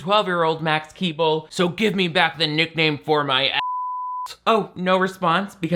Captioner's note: beep